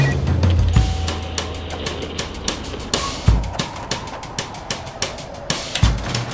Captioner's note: phone rings; upbeat music; airplane and cars whooshing